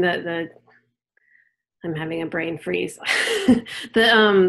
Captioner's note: chuckles